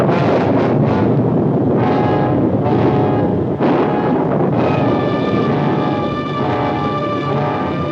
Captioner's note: thunder booms